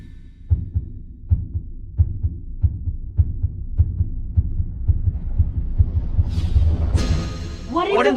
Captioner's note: heartbeat; increased Heartbeat